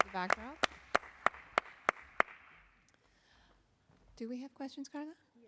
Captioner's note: applause